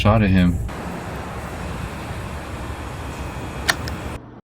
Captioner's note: engine revving